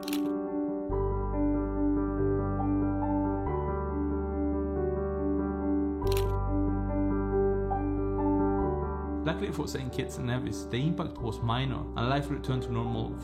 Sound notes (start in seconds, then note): 0.1 gentle piano music; 6.0 clicking of camera shutter